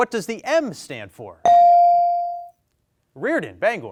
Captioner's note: bell dings